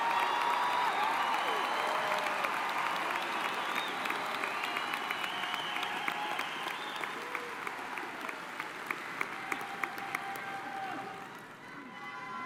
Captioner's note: cheers and applause